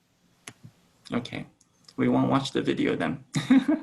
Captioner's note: laughs